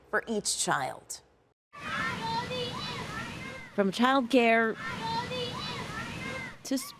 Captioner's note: children chattering